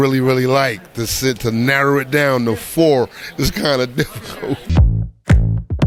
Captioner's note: laughs; upbeat music